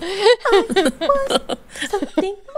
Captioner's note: laughing